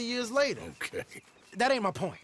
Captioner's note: laughs